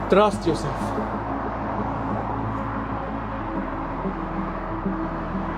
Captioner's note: traffic humming